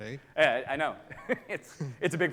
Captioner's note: chuckles